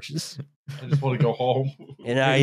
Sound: chuckles

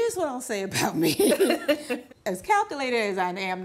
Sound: laughing

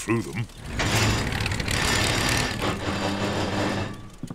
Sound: clunks and splutters

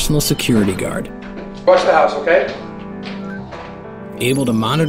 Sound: beeps

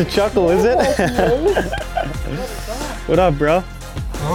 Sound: laughter

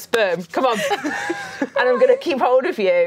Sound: laughing

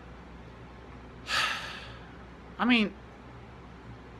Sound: sighs

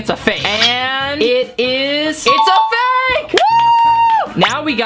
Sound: screams

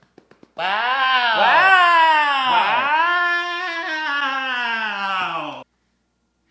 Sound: sarcastically

